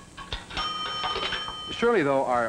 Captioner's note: phone rings